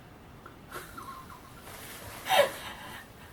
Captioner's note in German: lacht